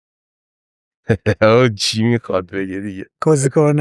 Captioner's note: laughs